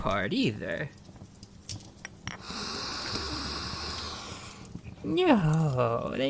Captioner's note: slow breath in, then exhale